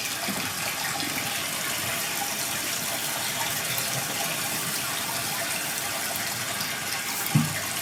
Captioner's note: water trickling continues